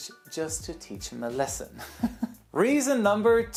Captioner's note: laughs